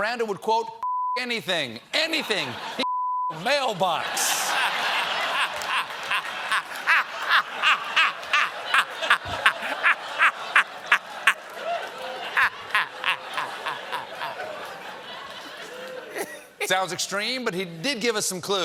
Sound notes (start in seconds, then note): 7.6 laughter